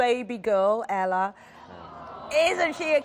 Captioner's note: crowd awws